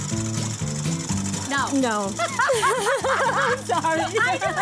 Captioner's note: laughs